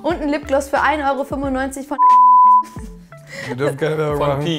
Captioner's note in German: piiiiiiep